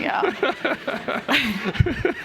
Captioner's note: laughter